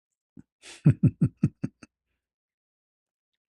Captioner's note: ketawa